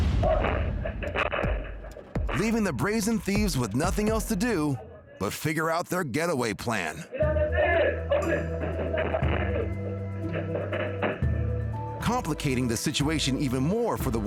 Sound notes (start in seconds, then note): 0.0 boom; 7.2 group shouting; 9.6 hands banging